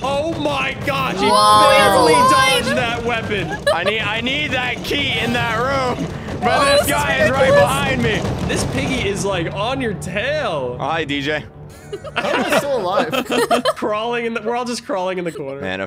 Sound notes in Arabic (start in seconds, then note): 13.3 يضحكان